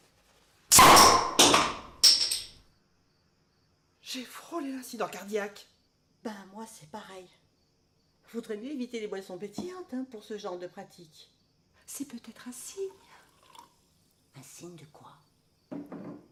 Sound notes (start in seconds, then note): 0.8 cork popping